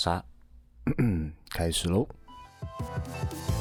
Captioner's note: cough